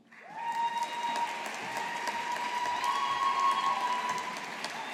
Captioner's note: audience applauding